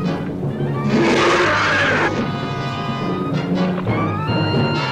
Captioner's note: Pete roaring